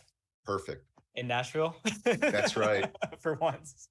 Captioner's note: laughs